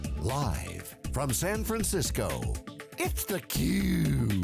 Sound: voiceover

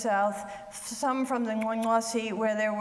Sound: speaks foreign language

